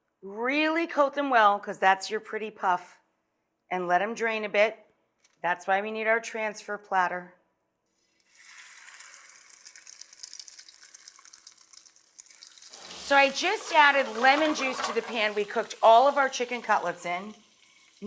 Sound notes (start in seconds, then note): 8.5 sizzling